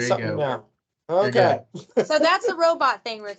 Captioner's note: laughs